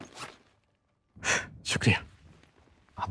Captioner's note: Gasps